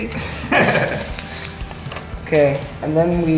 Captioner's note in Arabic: يضحك